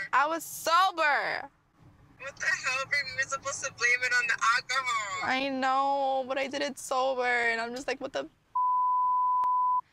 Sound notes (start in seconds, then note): 8.5 beep